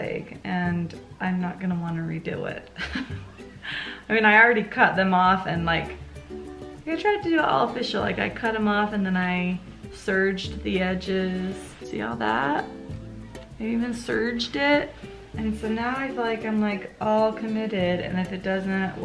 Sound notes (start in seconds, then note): 2.7 laughs